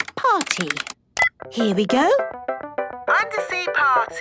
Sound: beep

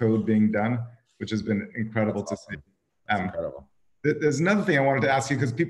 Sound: crackling drowns out

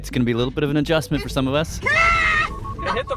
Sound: ARCHIVE CLIP: Ah!

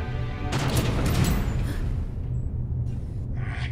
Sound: vault door slams

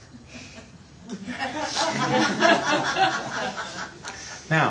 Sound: laughter

